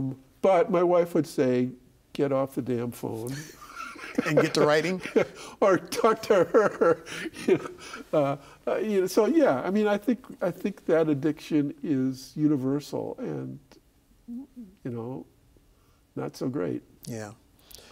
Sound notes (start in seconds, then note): 3.3 laughing